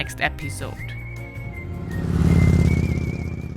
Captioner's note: motorbike roaring